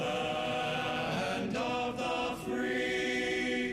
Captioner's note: none